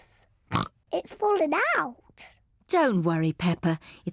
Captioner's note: oinks